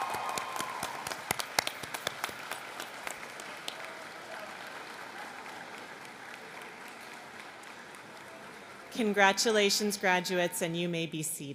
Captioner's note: applause